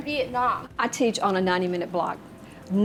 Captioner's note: voice-over